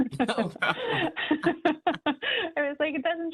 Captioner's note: laughter